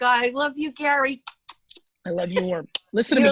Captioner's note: kissing